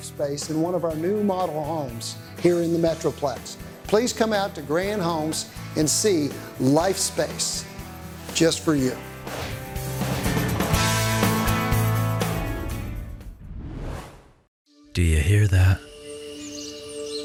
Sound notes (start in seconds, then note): 9.2 whoosh